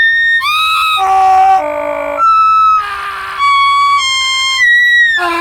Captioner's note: screaming; more screaming; even more screaming